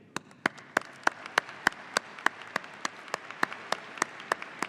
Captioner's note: audience applauding